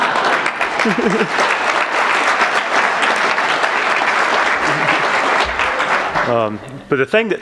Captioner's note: applause; laughs